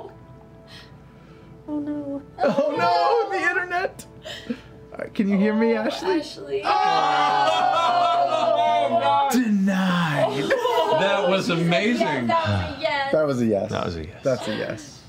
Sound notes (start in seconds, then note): 6.7 groaning